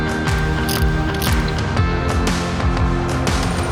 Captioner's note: mechanical clicking